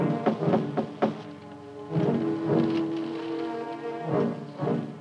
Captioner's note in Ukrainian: стукає